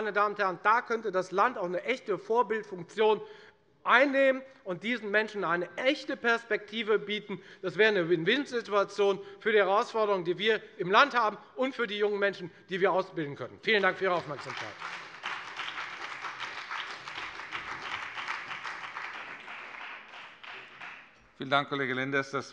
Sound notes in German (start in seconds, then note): 13.6 Beifall bei der FDP und der SPD